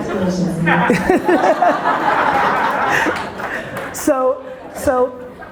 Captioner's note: audience laughter